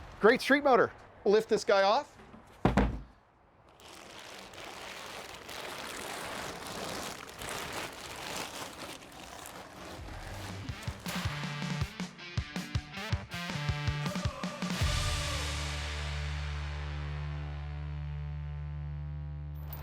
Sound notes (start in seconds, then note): 3.6 plastic crinkles; 10.5 upbeat music